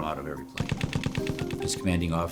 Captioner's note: machine gun fire